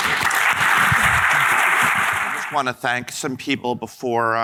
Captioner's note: audience applauding